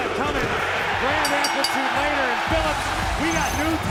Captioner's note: bell ringing